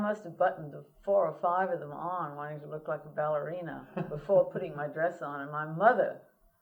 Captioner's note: laughter